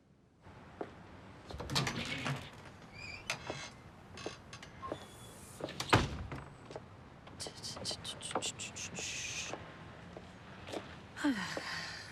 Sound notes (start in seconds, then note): 7.3 humming; 11.2 sighs